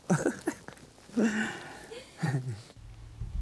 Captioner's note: laughs